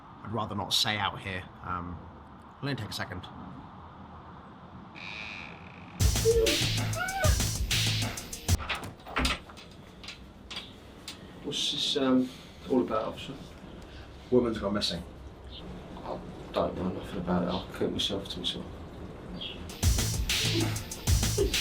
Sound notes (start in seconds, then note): 5.0 door creaks open; 6.0 muffled crying; 19.7 tense music